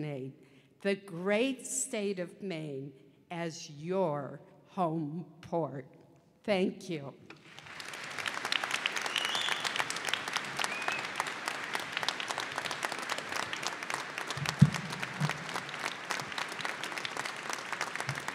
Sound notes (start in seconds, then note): 7.3 applause